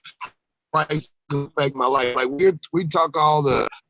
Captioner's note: audio goes in and out